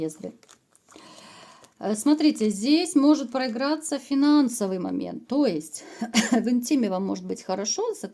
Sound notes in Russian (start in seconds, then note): 6.1 откашливается